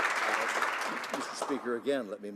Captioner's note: some Applause